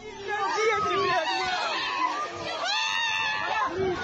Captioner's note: people screaming